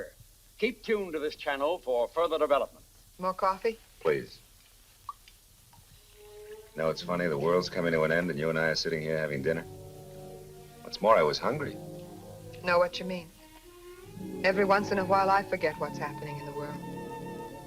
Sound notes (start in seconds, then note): 5.8 coffee sloshing; 13.4 gentle music